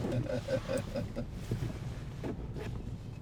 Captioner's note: laughs